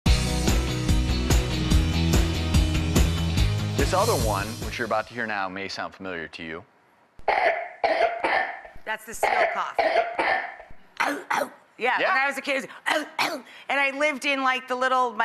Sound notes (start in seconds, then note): 0.0 upbeat music; 7.2 coughing; 10.9 coughing; 12.9 coughing